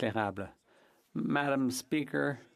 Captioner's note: speaking French